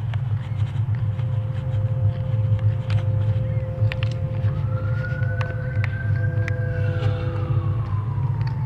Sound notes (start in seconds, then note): 4.4 police sirens